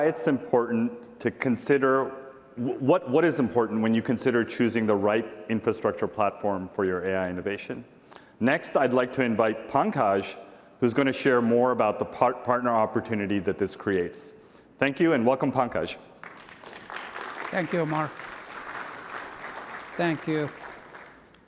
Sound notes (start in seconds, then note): 16.2 applause